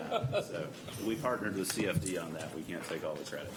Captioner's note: laughter